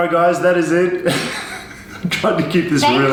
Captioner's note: laughs